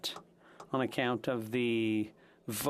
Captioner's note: speaking French